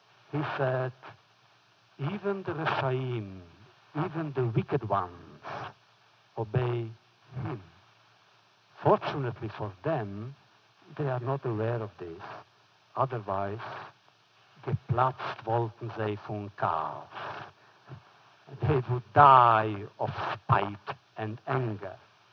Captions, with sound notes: He said, “Even the Resh-Ayin, even the wicked ones obey him. Fortunately for them, they are not aware of this, otherwise the (foreign language) they would die of spite and anger.”